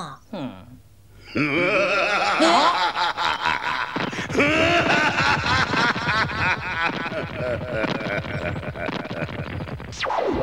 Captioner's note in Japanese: 笑い声